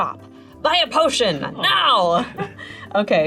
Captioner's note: laughing